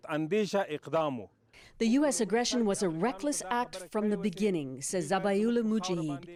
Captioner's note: speaking Foreign Language